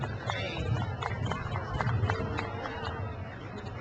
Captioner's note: crowd cheers